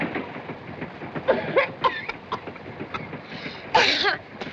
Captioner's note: coughing